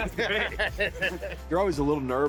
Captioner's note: laughs